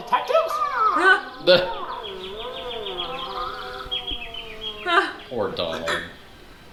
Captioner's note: birds chirping; groaning